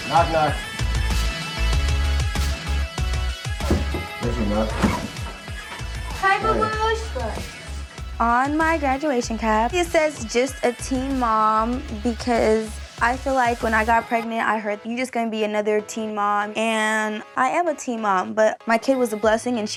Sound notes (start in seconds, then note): 1.4 fast upbeat music; 3.6 knocking on door